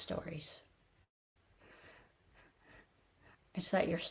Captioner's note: pause